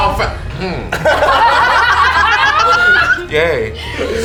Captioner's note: the group bursts out laughing